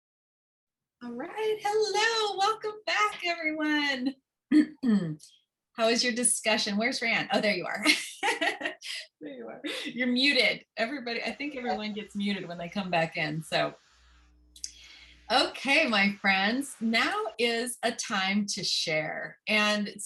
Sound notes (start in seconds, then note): 7.8 laughter